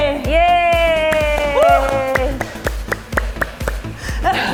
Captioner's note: cheers and clapping